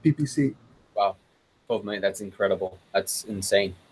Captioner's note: murmurs